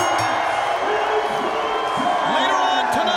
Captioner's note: bell ringing